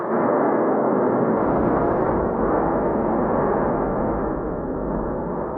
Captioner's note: dramatic drum music continues; volcano roaring continues